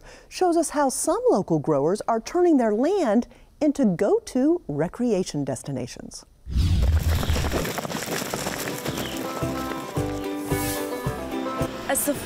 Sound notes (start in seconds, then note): 6.4 air rumbles; 6.8 hoofs patter; 9.2 upbeat banjo music; 10.5 air whooshes